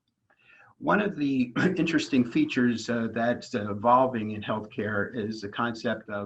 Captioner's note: cough